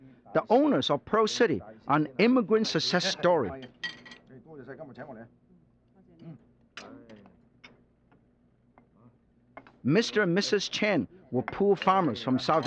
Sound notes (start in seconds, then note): 3.6 speaking Chinese